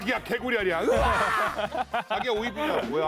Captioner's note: arrrrrggghhh